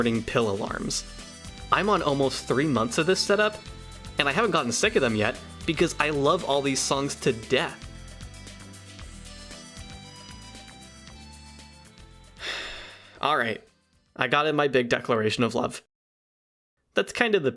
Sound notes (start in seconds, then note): 12.4 exhale